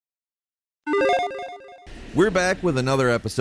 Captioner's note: logo beeps